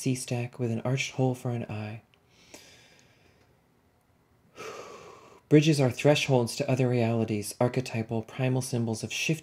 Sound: deep breath

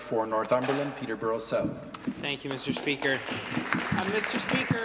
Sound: applause

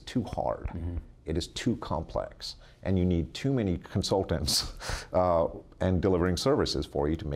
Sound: laughs

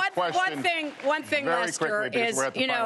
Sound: applause

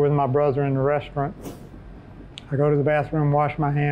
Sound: whooshing

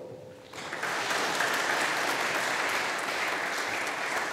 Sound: audience applauding

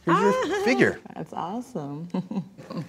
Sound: laughs

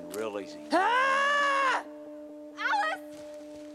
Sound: possum yelling

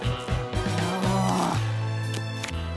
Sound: groaning

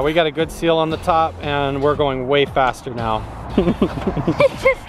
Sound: laughs

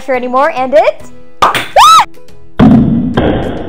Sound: canister pops; screams

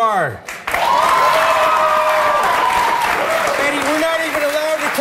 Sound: audience screams and applauds

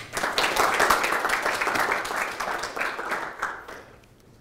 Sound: audience applauding

